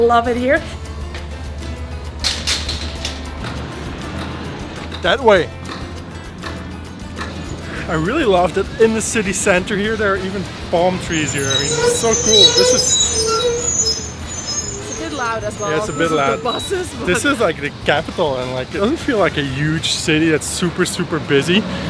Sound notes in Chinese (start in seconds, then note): 13.0 刺耳的刹车声